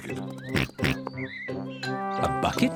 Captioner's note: oinks